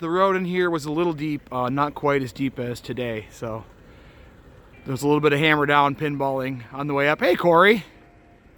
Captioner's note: none